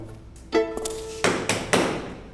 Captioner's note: banging on door